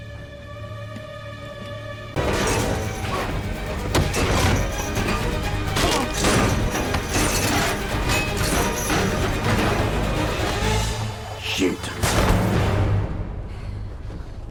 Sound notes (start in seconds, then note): 0.0 light footsteps; 2.2 banging, fight noises